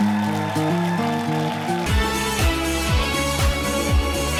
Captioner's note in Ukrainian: оплески